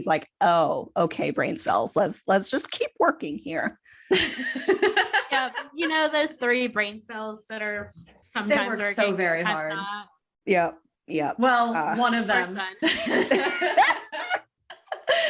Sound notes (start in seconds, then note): 4.2 laughs; 12.8 laughter